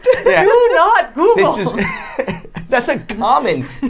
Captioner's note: laughing